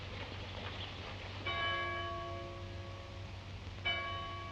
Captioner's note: bells dinging